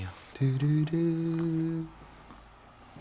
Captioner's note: humming